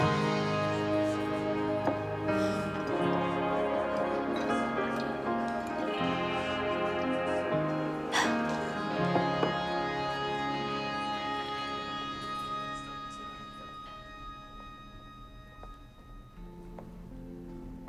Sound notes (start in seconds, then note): 2.3 sighs; 8.1 chuckles